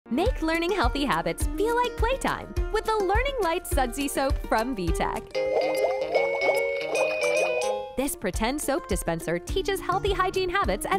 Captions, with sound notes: Make learning healthy habits feel like playtime with the Learning Lights Sudsy Soap from VTech. (bright music) (bubbles popping) This pretend soap dispenser teaches healthy hygiene habits